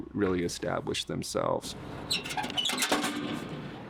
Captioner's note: metal clatters